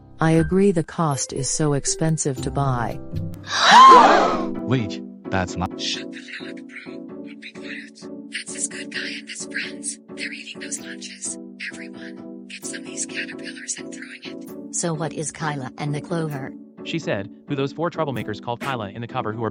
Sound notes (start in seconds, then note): 3.4 Troublemakers Gasping; 5.6 whisper